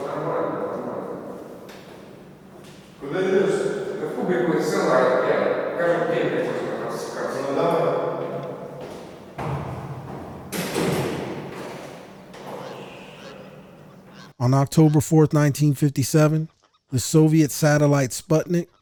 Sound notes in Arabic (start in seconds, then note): 0.0 أصوات تتحدث بلغة أجنبية; 4.6 تستمر الأصوات في الحديث باللغة الأجنبية